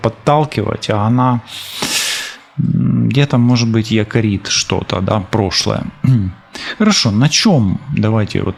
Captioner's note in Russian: откашливается